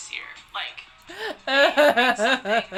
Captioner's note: crying